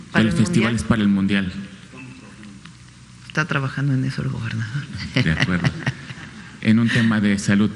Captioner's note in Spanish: risas